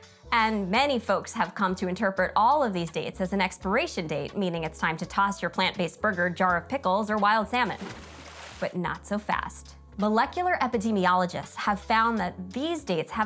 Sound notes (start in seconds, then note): 7.5 water splashing